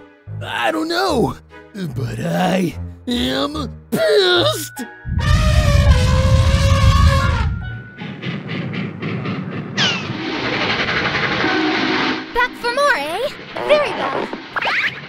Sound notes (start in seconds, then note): 5.1 elephant roar; 7.7 train sound